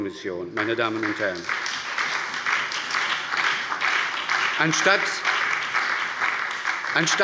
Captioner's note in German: Beifall bei der SPD und der FDP